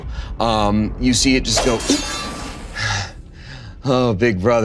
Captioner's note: metal clanging